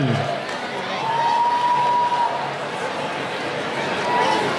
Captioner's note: cheering